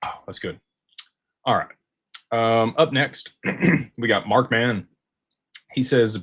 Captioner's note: clears throat